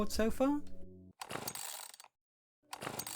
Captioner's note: chainsaw cord being pulled twice